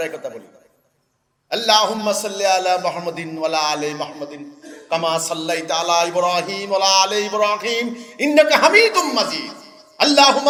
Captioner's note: Arabic